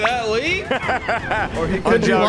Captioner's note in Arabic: تضحك